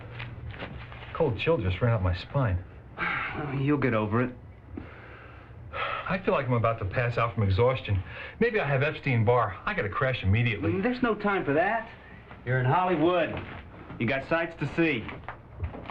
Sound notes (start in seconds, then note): 2.9 sighs